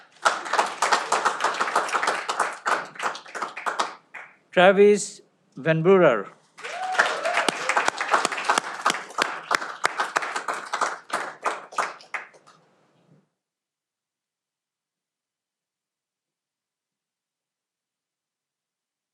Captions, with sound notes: Travis Van Brewer. (cheering)